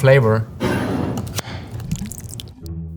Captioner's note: jar sliding; lid opening; salsa pouring